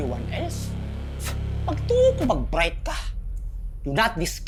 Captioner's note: Apo scoffs